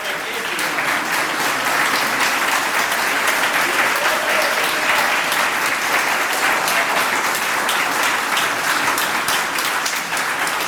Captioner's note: applause